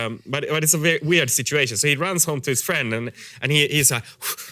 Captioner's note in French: essoufflé